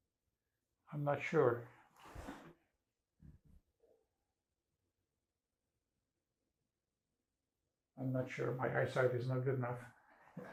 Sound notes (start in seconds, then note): 2.0 pauses 6 seconds